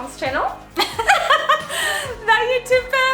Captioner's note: laughing